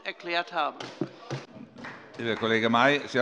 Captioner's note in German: Beifall bei Abgeordneten der SPD